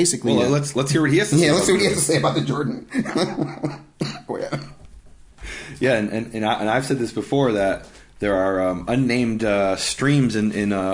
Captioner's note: laughing